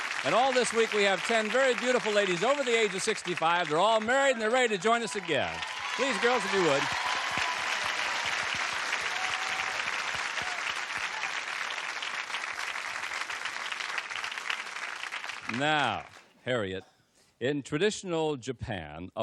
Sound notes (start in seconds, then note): 7.1 applause